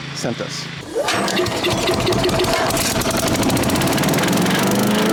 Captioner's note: motor roaring; motor vibrating